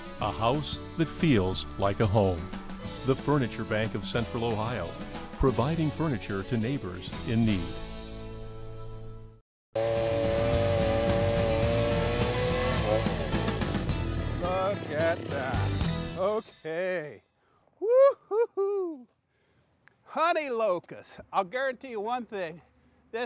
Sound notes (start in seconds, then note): 9.7 chainsaw roaring; 10.0 bright upbeat music; 17.9 cheering excitedly